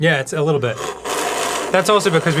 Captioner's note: loud yet dainty slurping